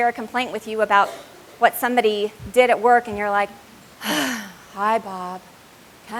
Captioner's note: sighs